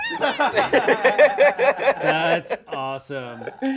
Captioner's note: all laughing